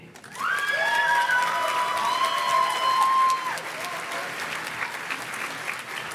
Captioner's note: audience cheers and claps